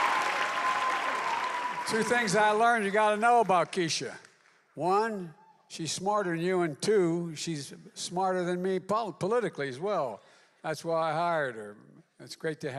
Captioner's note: applause